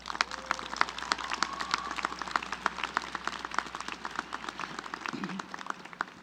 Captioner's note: applause